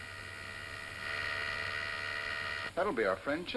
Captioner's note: doorbell buzzes